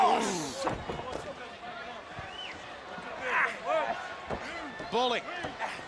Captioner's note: crowd chatter